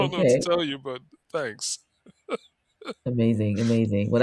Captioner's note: laughs